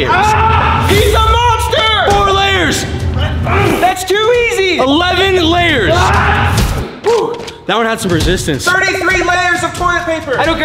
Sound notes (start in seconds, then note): 3.0 grunts; 6.5 punch